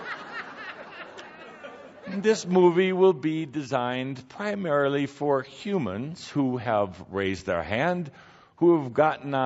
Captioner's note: laughter